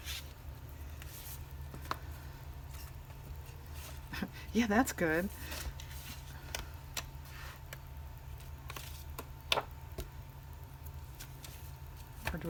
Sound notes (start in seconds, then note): 3.5 sarcastically